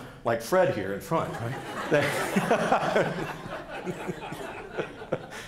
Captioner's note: audience laughing